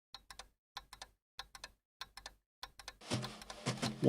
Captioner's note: clock ticking